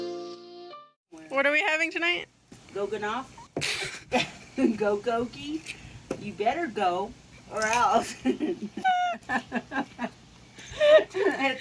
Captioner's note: laughs